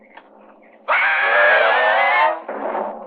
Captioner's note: screaming